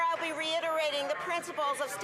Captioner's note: some Applause